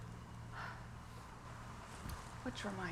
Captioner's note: Laura sighs